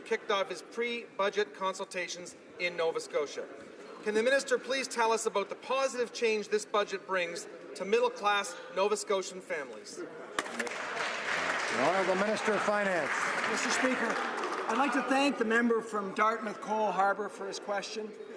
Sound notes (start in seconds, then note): 14.2 some Applause